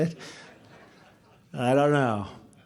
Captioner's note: laughter